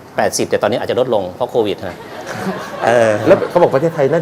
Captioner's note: laughter